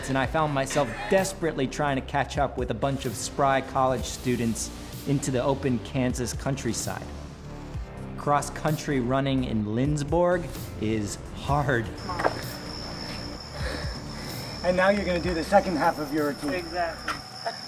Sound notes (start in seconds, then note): 13.5 gasping